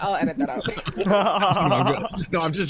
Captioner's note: laughing